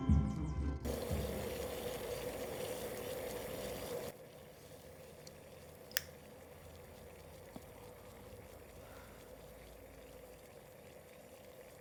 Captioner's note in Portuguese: café fervendo